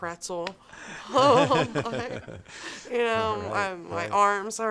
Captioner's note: laughing